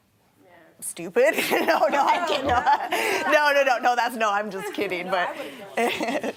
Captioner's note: laughing